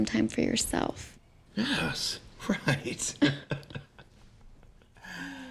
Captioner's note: chuckles